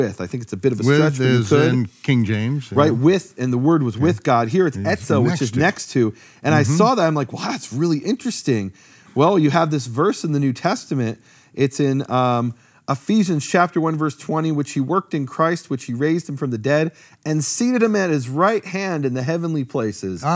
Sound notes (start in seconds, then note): 4.8 speaking in foreign language